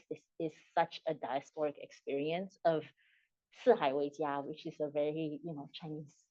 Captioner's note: non-english speech